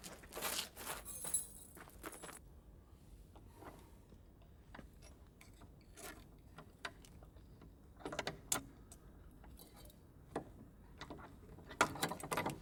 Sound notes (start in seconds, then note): none